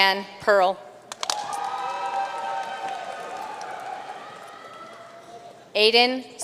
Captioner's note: audience cheering and applauding